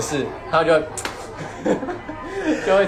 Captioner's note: slaps leg